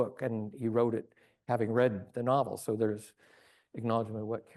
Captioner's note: none